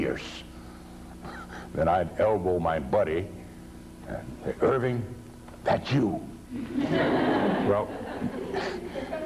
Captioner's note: laughter